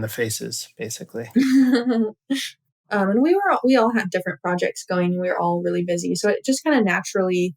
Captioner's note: laughter